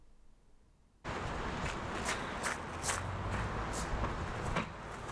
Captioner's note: wind howling